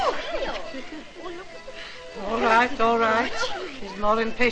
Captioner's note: all clamouring; wh|sper|ng